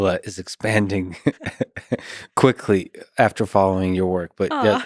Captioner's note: laughs